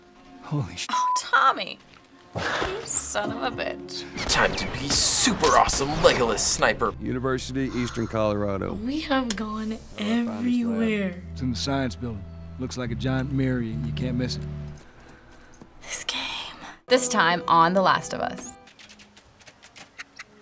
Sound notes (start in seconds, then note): 7.6 sighs; 15.6 whispering; 20.0 squirrel chirps